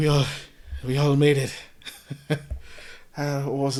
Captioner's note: laughs